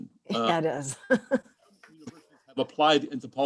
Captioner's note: distorted mic; laughter